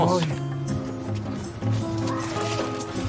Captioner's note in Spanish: gritos